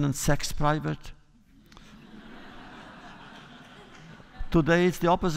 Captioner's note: laughter